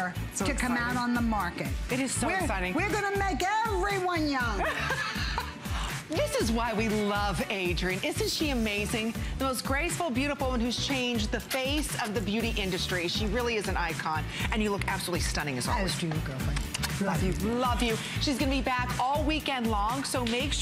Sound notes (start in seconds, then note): 4.6 laughter